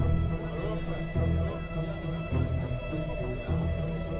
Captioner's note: faint chattering